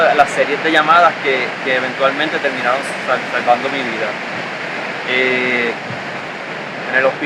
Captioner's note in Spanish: Sonido Olas